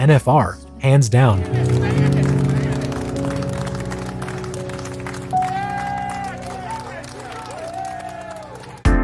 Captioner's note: appaluse